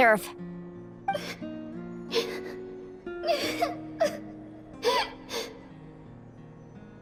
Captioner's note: sobbing